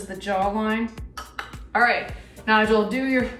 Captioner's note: tongue clicks